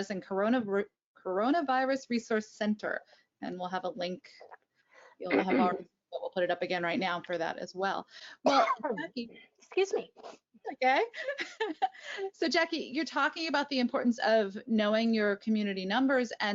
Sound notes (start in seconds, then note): 8.4 coughing; 11.1 laughing